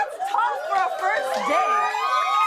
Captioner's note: cheers and applause